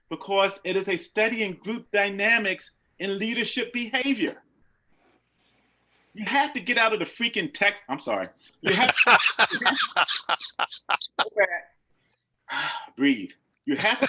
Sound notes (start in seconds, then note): 8.6 laughs loudly